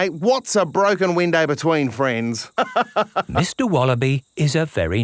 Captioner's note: laughs